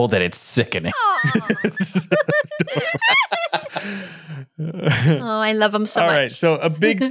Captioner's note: laughing